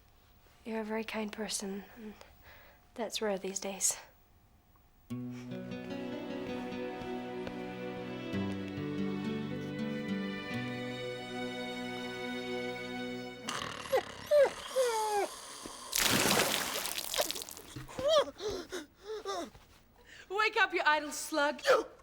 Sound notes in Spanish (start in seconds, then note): 13.4 ronquidos; 13.8 perro lloriqueando